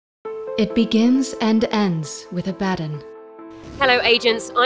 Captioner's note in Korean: 보이스오버